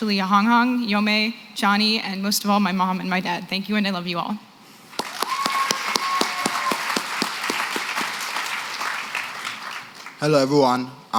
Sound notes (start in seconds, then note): 4.9 applause